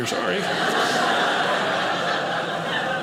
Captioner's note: audience laughing